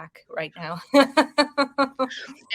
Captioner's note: woman chuckling